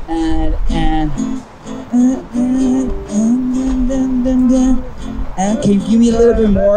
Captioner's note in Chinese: 哼唱